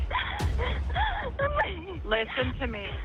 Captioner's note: crying